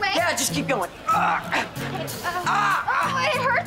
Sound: groaning

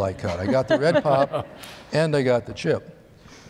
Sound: laughter

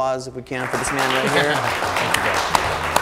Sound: audience clapping

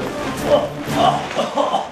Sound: coughing

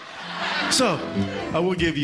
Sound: laughter

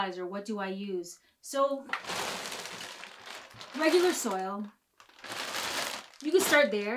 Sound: bag rustling

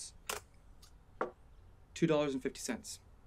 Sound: knocks on counter

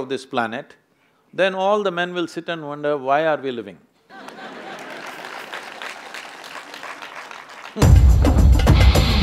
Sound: applause

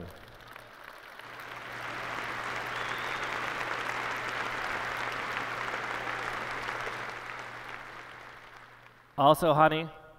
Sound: applause

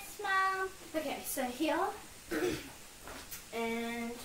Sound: cough

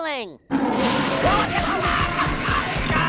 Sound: screaming

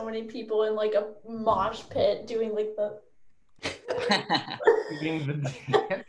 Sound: all laugh

